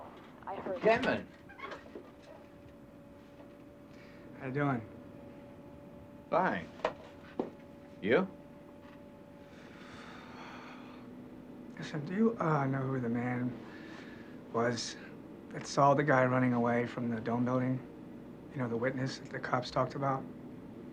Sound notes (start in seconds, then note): 9.6 sighs